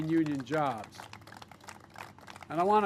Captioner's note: applause